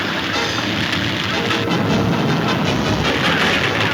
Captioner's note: exciting music; hooves thundering